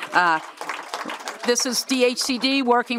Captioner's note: applause